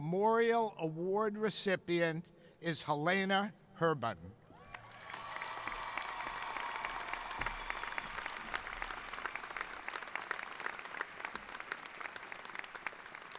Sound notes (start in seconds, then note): 4.6 cheering; 4.6 applauding